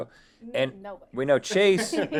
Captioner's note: laughs